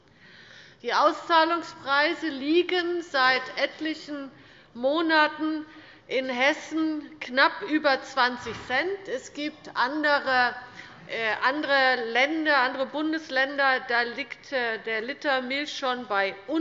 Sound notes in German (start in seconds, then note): none